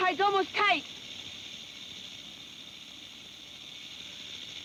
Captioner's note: snake rattles